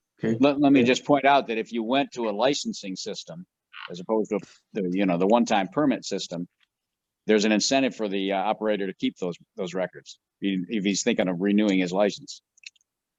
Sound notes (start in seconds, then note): none